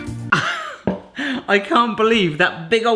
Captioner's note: laughs